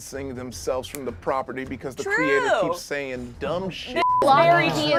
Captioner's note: beep